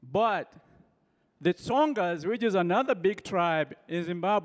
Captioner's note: none